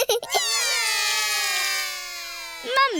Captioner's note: laughs; all cry